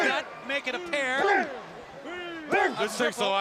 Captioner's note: crowd chatter